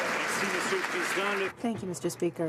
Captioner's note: some Applause